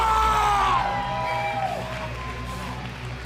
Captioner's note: crowd chatter